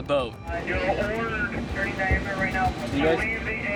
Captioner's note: radio chatter